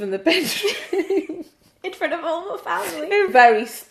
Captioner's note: laughing